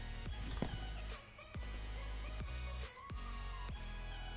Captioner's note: foot thuds